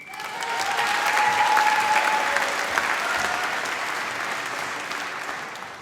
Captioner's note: applause